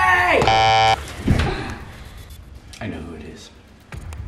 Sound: buzzer sound

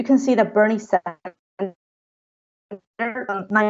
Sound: voice breaking up

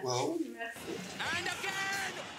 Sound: television playing

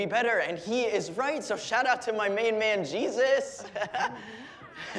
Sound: laughs

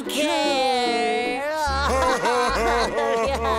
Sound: crying

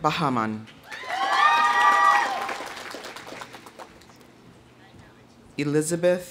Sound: audience applauding; audience cheering

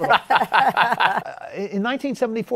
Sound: laughs

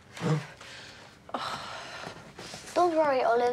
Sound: grunts

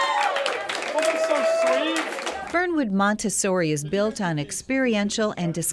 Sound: applause

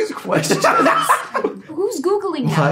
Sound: Gaten laughs

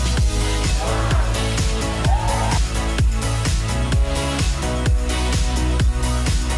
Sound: cheering

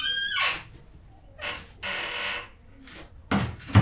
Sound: opening door

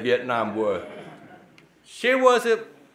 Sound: audience laughing

